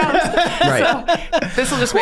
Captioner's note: Charlie laughs